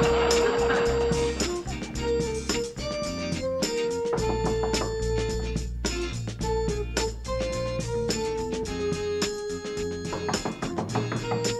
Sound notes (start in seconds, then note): 4.2 knocking